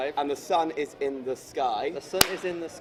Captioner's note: clap